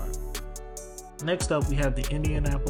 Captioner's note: voiceover